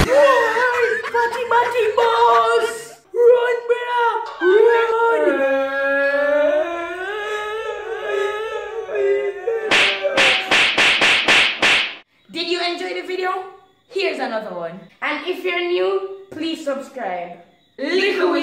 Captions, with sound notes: Woieeeee... Fatty Batty Buss Run Bro. ..Run *Boys Crying* *hard slaps* Did you enjoy the video? Here is another one If you are new remember to subscribe